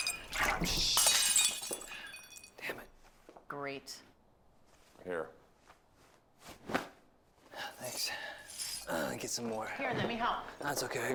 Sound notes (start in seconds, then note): 0.0 glass breaking